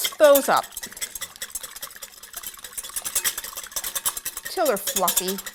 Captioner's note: whisking